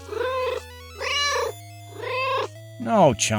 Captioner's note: meow